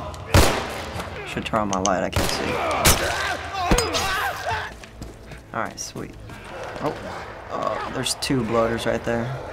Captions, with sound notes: (gun shot) - I should turn on my light. I can't see. (Joel grunts) (man yelps) All right, sweet. (faint growling) Oh! Uh-oh, there's two Bloaters right there.